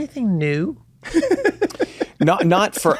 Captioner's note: laughs